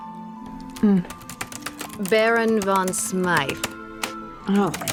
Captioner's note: typing resumes